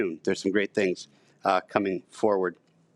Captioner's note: none